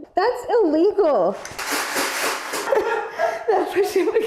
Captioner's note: machine thudding